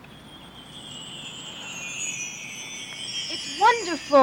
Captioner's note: chimes chiming